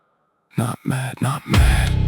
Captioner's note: whispered, creeping